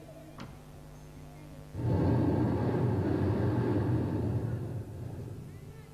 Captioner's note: shri mataji blows into the microphone